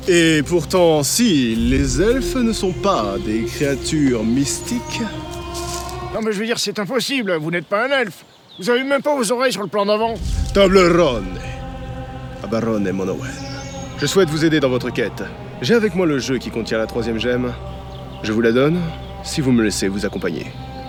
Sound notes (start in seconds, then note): 10.6 speaks in Elvish